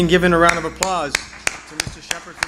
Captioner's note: applause